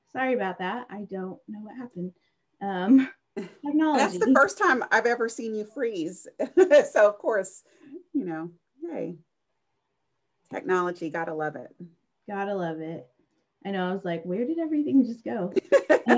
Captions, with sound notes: - Sorry about that, I don't know what happened. - That's the first time I've ever seen you freeze. (laughs) So of course, technology gotta love it. - Gotta love it. I know, I was like, where did everything just go?